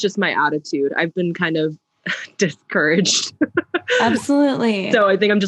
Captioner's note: laughs